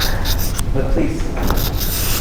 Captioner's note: laughing